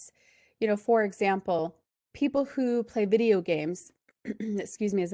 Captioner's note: cough